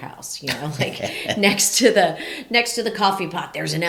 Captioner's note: laughs